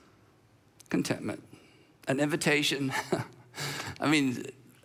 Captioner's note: chuckles